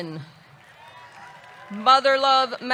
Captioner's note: audience clapping; audience cheering